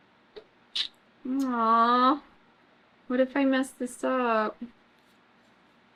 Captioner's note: clicks tongue